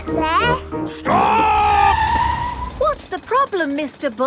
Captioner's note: tires screeching